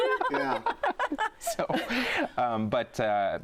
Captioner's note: laughter